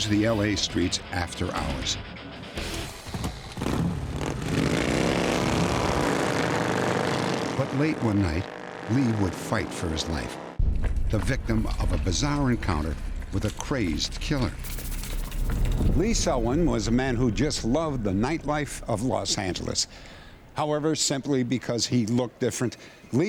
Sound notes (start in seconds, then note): 3.2 engine roaring